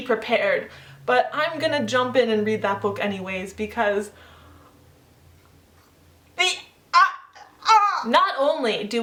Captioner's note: incoherent noises of shock and awe